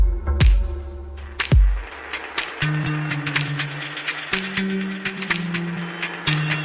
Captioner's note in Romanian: Aplauze